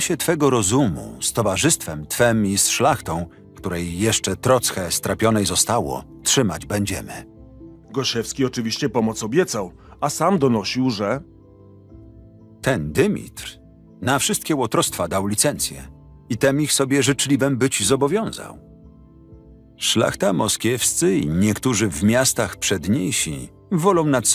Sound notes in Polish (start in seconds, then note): 12.8 Lektor